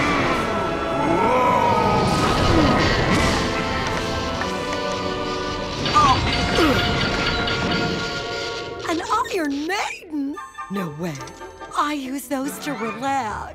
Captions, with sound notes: [groaning] An iron maiden. No way. I use those to relax.